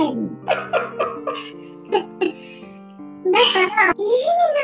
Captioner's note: laughs